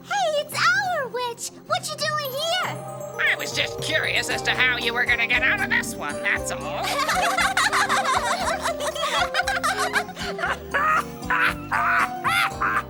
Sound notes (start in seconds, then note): 6.8 giggling; 10.6 laughing